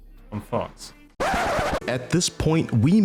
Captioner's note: record Scratch SFX